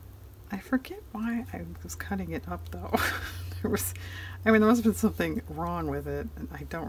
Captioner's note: laughs